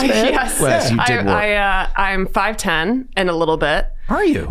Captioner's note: chuckles